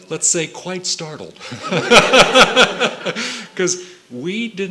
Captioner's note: laughter